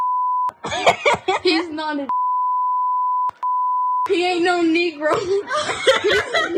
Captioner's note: laugh